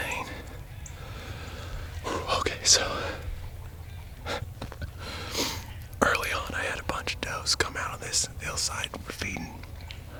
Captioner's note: whispering